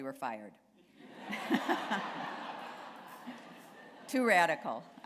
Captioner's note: laughter